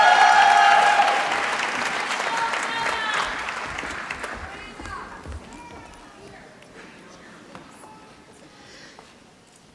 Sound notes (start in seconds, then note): 0.0 applause